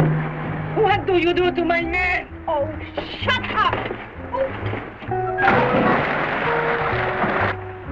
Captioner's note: water splashing